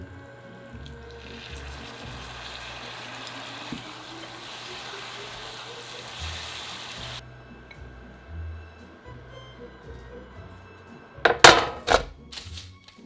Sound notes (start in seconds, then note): 2.0 simmering